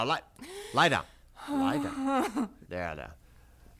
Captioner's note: gasping